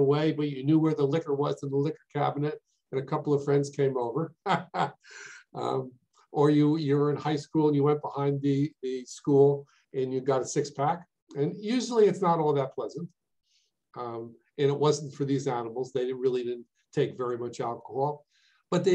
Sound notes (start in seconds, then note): 4.4 laughs